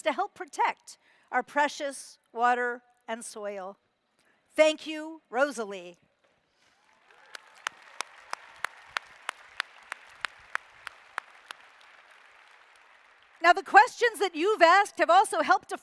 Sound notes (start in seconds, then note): 6.7 applause